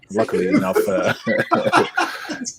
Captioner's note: all laughing